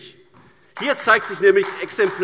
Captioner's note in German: Beifall AfD